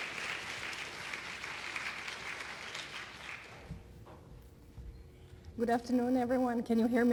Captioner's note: applause